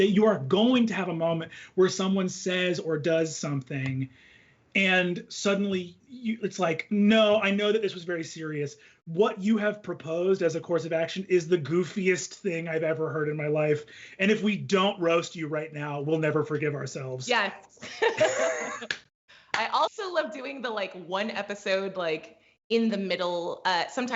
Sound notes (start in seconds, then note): 17.8 both laugh